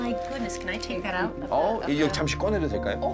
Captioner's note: speaking Korean